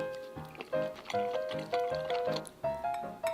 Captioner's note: the sound of eating